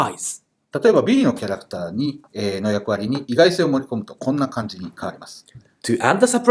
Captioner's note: speaking Japanese